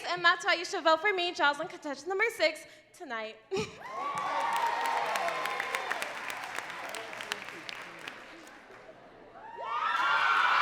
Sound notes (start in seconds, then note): 3.8 crowd cheering and clapping